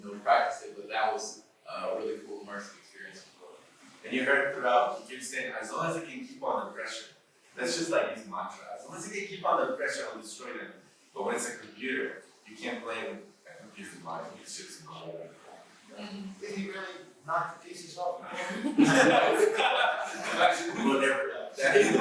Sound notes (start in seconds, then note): 18.3 laughter